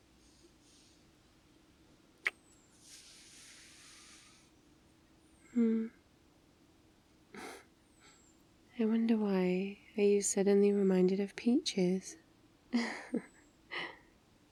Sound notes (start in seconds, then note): 2.2 kiss; 4.3 laughs; 12.8 laughs